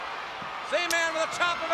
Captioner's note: crowd cheering